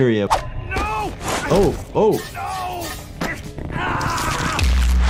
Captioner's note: victim screaming